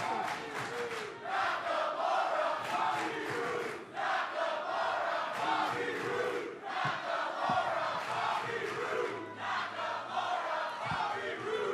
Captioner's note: crowd cheering